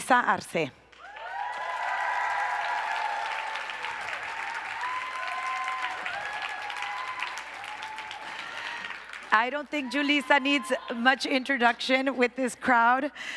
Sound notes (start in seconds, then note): 0.9 applause